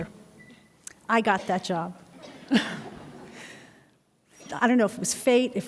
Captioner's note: laughs